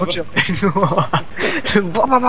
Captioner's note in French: Rire